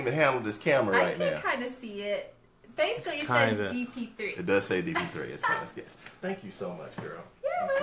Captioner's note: laughter